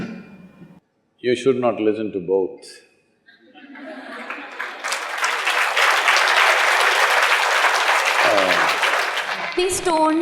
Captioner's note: laughs; laughter/Applause